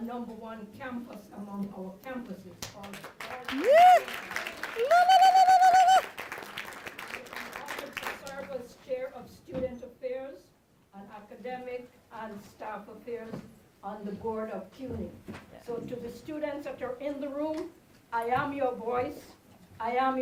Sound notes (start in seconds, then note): 5.6 applause